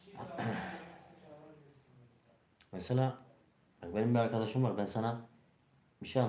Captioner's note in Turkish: boğazını temizler